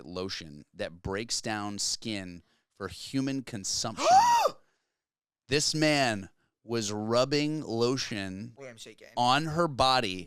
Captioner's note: gasp